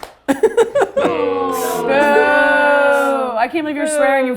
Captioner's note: laughs; crew awws and boos